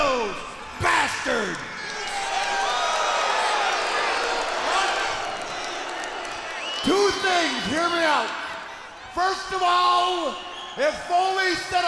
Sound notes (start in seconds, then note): 2.5 crowd cheering